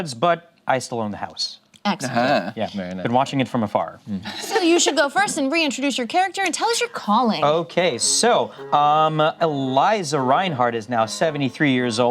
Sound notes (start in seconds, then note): 4.2 laughs